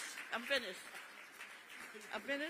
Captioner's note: applause